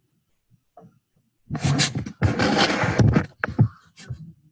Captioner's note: feedback from camera moving